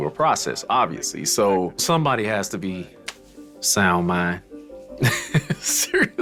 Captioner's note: laughs